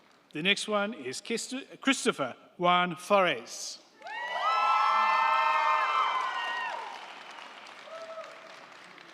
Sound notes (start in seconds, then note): 4.0 crowd cheering; 4.0 crowd clapping